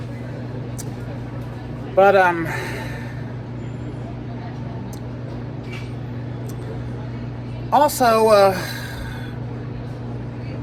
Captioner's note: indistinct chatter at Kettler Hall